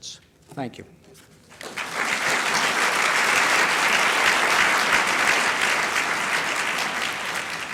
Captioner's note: applause